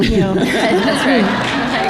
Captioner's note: laughter